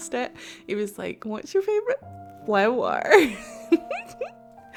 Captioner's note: giggles